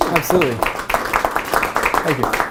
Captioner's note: applause